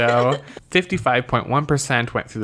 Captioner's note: laughs